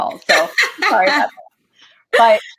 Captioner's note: laughter